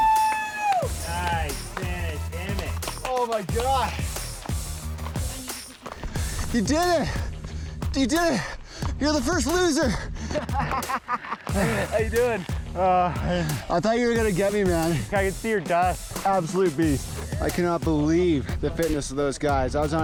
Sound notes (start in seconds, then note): 0.0 upbeat music; 9.7 laughs; 12.6 sighs